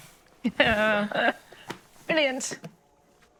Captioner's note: Moira chuckling